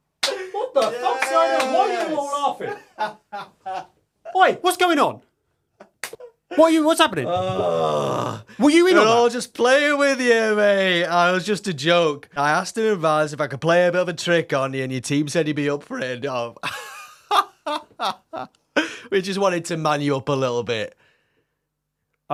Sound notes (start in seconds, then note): 16.7 laughs